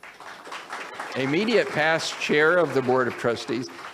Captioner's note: audience applauds